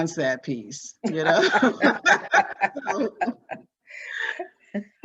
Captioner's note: both laughing